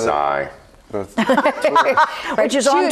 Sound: group laughs

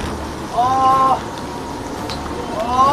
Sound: uneasy steps

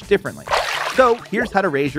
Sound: water splashing

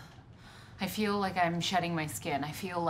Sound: none

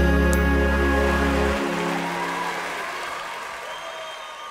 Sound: applause

